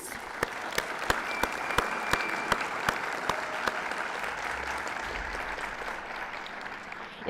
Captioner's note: applause